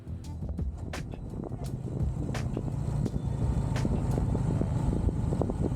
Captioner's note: engine noise